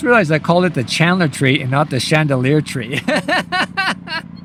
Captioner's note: laughs